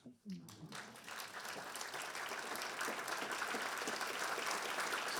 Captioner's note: audience applauds